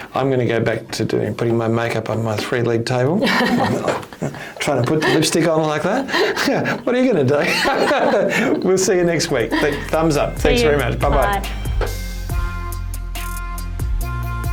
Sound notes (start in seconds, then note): 3.5 both laughing; 7.8 both laughing; 11.6 uplifting music